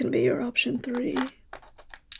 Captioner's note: rattling sounds